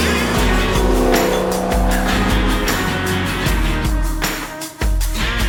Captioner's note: car engine accelerating; upbeat music playing